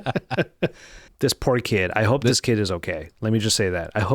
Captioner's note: laughing